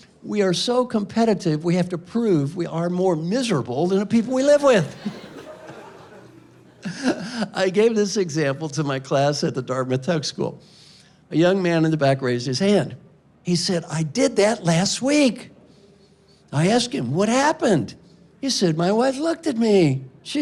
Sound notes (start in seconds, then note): 4.4 laughing